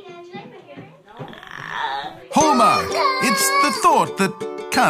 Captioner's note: child wails